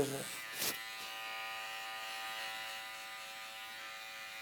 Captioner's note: buzzing